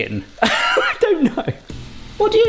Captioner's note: person laughing